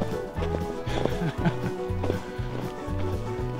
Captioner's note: chuckles